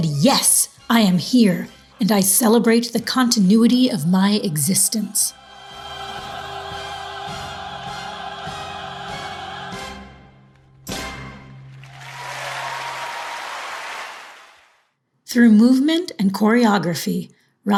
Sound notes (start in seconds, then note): 5.7 lively music; 11.7 audience cheering